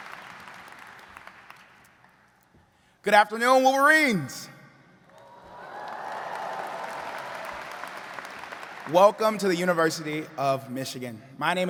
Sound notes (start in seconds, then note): 5.0 all cheering and clapping